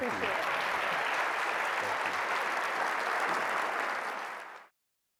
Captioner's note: applause